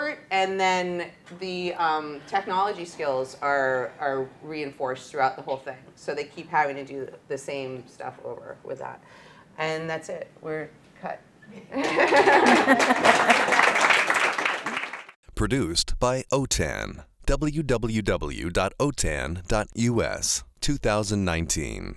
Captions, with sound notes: and then the technology skills are reinforced throughout the whole thing. So they keep having to do the same stuff over with that, and that's it. We're cut. [Applause] Produced by OTAN www.otan.us 2019